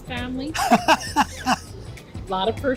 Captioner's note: laughs